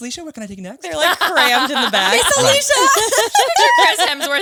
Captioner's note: laughs